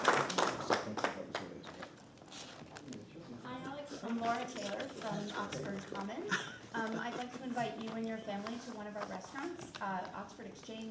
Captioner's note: applause